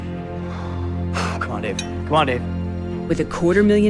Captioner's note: exhales